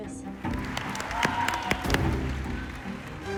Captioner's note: cheering